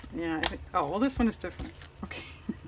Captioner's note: laughs